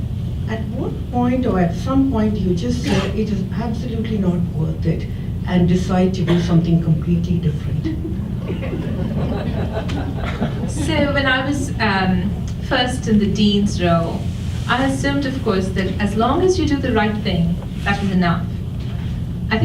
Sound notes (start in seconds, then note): 7.8 audience chuckles